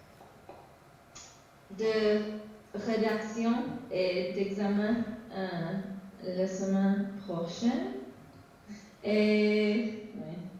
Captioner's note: speaking french